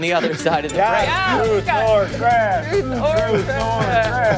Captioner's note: laughter